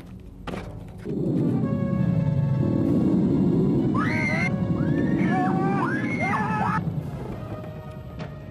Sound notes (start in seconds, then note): 1.6 monster roars, people scream